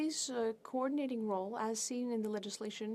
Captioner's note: speaking french